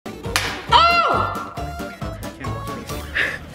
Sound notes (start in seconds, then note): 0.2 egg shell cracking; 1.9 playful music